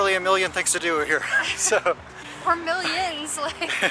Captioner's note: laughs